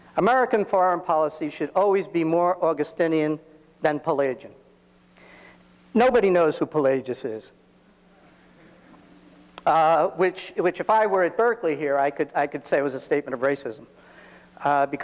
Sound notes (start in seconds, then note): 8.0 audience laughs